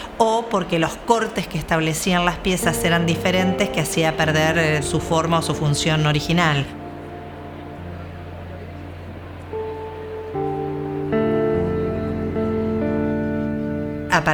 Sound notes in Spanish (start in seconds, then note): 7.1 murmullo de gente; 9.6 música suave de piano